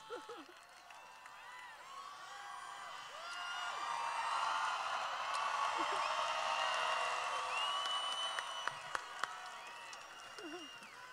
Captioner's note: cheering